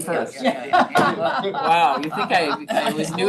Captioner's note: people laugh